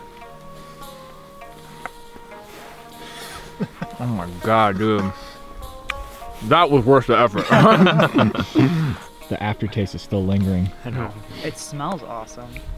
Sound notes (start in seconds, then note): 3.1 laughs; 6.7 all laugh